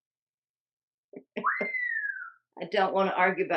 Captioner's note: whistle